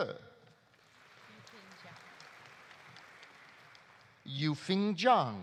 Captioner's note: audience applauding